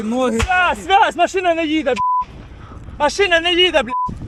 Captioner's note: over the radio